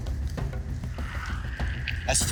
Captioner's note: static buzzing